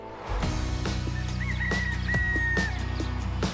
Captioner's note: upbeat music; rooster crows